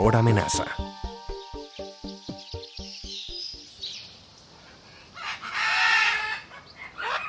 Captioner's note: sonidos silvestres